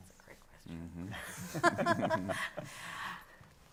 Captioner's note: laughs